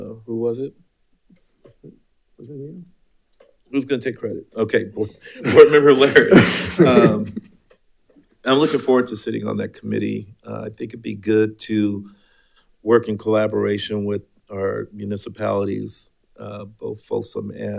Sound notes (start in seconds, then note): 7.5 laughs